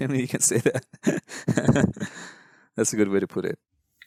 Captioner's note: laughs